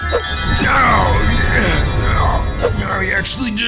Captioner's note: bowser screams